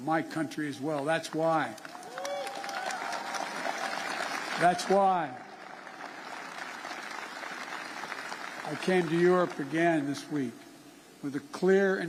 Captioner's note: applause